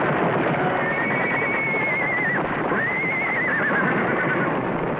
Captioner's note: horse whinnying; horses stampeding